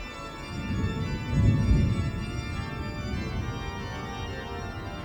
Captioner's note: thunder rolling